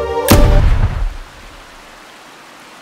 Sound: rain; gun shot

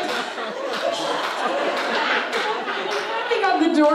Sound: audience laughs

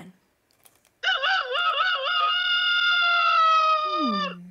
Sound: roster crows

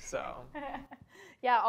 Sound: laughter

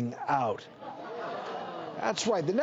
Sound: audience laughs

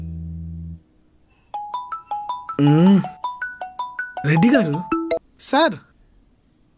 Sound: mobile phone ringing

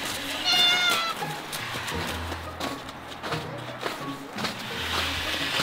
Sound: footsteps crunching in snow; light quizzical music

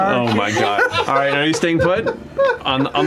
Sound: laughter

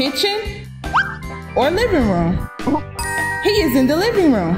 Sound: bell dinging

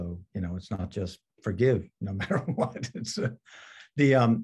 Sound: laughs

